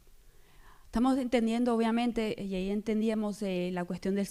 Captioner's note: speaking spanish